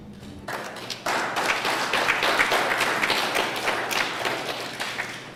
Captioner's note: applause